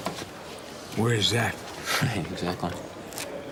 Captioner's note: laughs